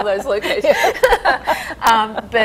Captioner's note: laughing